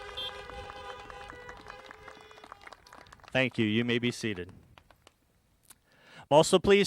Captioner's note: applause